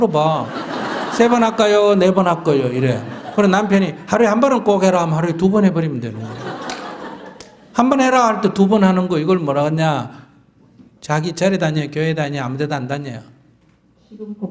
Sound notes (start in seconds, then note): 0.3 audience Laughter; 6.1 audience Laughter